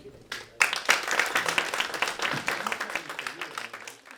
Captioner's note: audience applauds